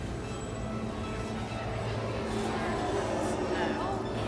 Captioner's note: jets roaring